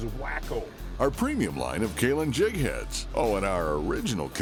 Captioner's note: voiceover